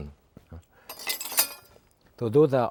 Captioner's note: bowl clinking; knife clinking